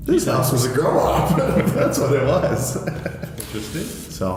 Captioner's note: laughing